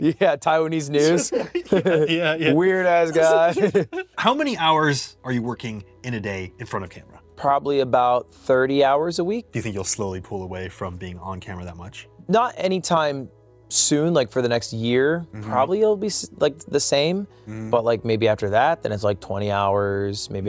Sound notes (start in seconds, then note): 1.0 laughs